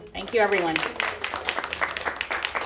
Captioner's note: applause